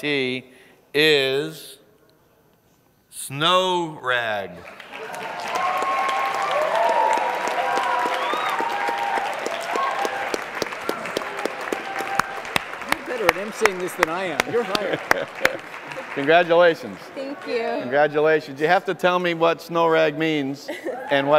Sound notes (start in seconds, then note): 0.7 applause